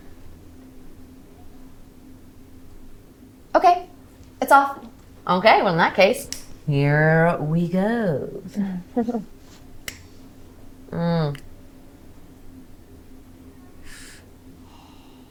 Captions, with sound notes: Okay, it's off. Okay, well, in that case, here we go. (lighter clicks) Mm. (exhales sharply)